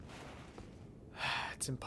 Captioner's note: sigh